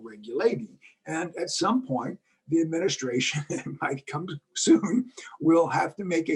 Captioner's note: laugh